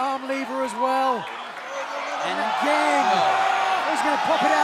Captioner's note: crowd cheering